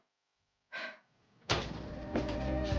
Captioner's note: Susan sighs